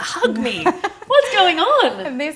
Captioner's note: laughing